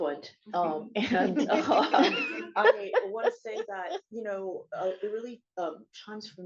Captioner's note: chuckles